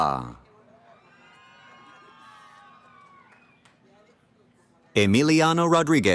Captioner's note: cheering